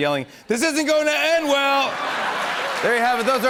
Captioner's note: laughter and applause